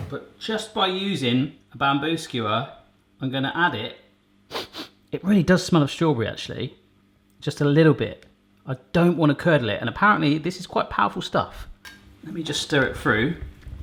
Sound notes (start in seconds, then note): 4.5 sniffing